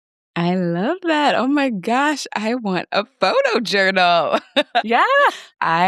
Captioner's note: laughs